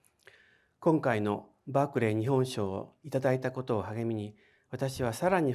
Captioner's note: speaking in foreign language